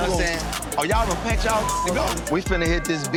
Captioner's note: beep